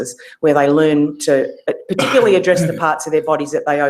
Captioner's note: cough